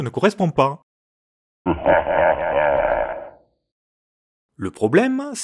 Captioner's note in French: ha ha ha